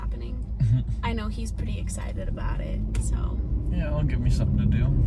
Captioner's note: laughs